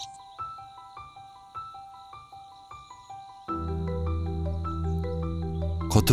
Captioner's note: bird